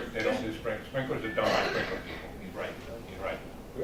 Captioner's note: coughing